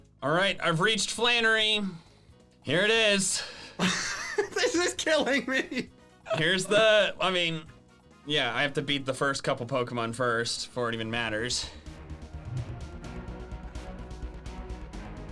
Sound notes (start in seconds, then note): 6.2 laughs; 11.0 suspenseful music